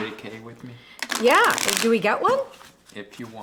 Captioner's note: cards shuffle